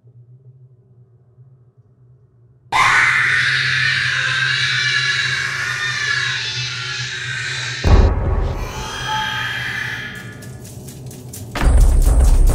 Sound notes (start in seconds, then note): 2.7 screaming; 7.8 thump; 8.6 Chica hissing; 10.1 footsteps grow loud